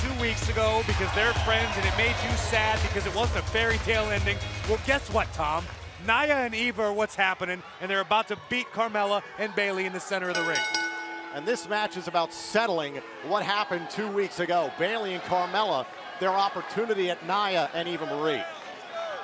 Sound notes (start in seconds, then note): 12.7 bell ringing